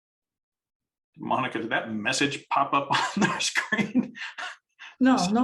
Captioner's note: chuckles